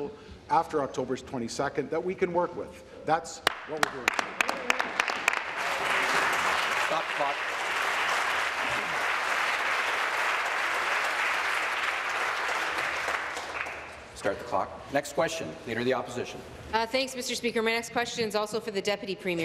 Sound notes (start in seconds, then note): 7.6 applause